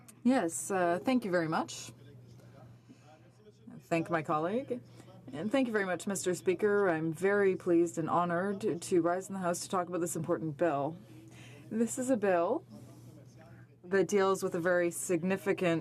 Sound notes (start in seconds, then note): 0.5 speaking in french